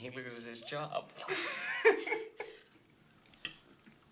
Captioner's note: laughing